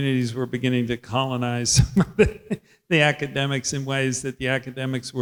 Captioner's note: laughs